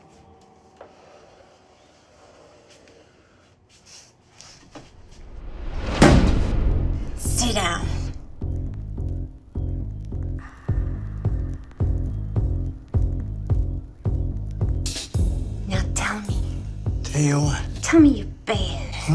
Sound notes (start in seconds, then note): 4.8 thud; 5.9 pulsating jazzy musical beat